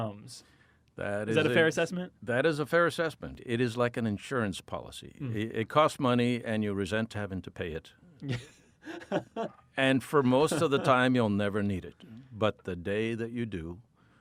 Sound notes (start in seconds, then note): 10.2 laughing